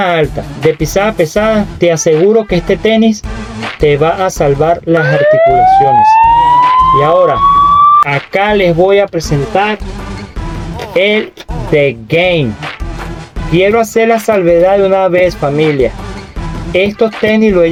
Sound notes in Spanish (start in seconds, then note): 7.6 grito